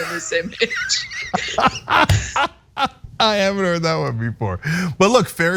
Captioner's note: laugh